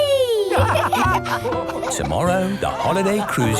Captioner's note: all laugh